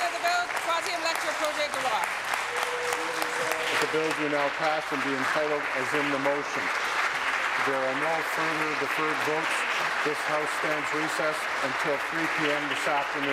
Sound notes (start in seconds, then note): 2.3 applause